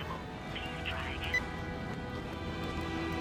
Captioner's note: phone beeps